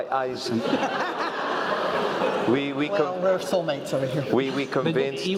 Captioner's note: laugh